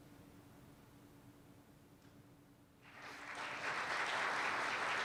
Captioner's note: applause